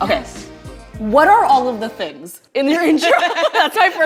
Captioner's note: laughs